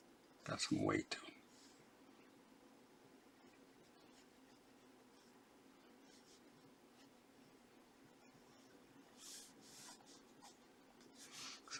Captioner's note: silence